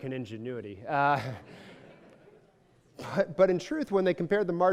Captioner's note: laughs